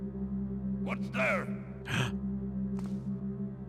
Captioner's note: gasps